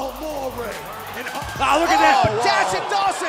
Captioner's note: crowd cheering